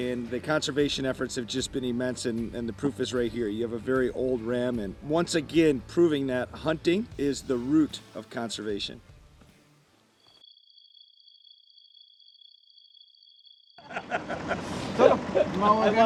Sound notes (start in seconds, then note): 11.5 beeping; 13.8 laughter